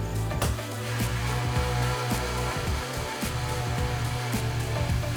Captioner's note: trainer whirs louder